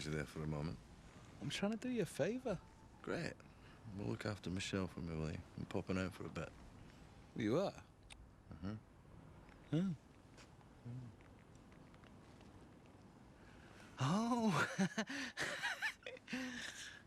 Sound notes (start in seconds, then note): 14.0 laughs